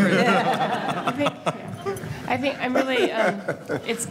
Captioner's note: audience laughing